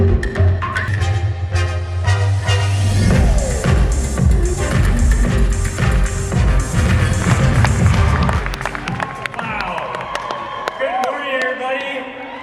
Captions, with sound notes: (audience applauding) - Wow, good morning everybody.